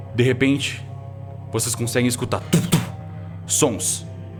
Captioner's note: tumph tumph